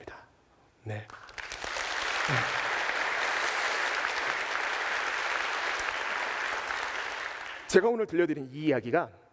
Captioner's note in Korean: 박수